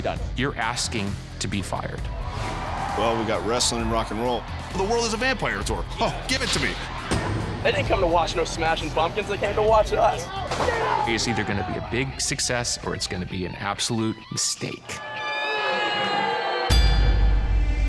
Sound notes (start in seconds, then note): 15.1 audience booing